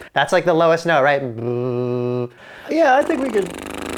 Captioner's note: blows raspberry